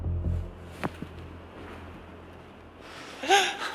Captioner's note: then the sound of footsteps is heard